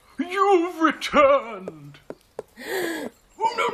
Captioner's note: Ophelia Gasps